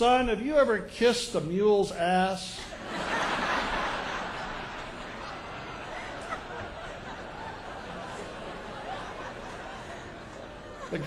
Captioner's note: laugher